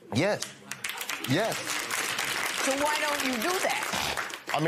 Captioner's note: applause